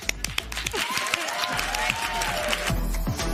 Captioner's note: applause